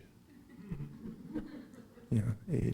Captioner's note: laughing